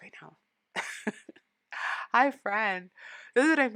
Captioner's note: laughing